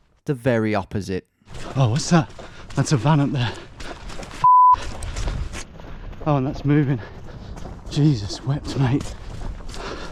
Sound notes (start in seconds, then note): 4.4 beep